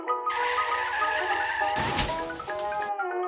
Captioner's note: sounds of car accident